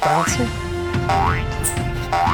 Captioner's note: intense music; boinging